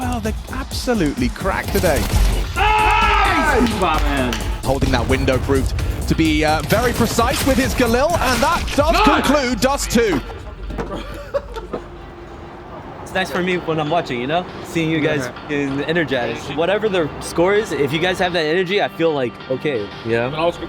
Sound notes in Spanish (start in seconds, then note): 2.4 el equipo grita; 11.5 el equipo se ríe